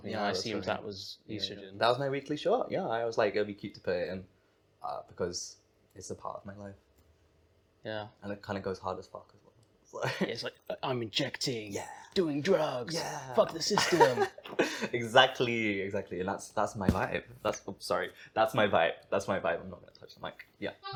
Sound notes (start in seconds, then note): 13.8 laughs; 16.8 distorted thump